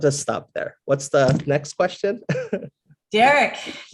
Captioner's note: laugh